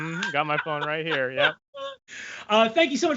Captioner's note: laughs